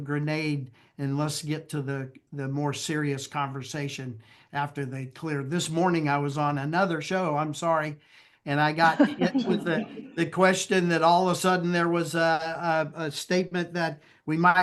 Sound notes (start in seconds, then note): 8.8 laughter